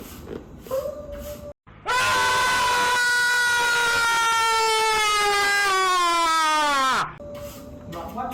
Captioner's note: sound Effect - Man Screaming